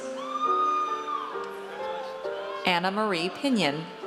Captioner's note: audience cheers